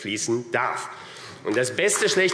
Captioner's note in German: Beifall AfD